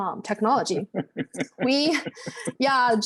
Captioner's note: chuckles